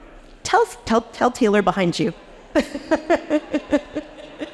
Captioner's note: laughs